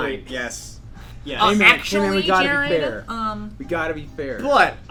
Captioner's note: sarcastic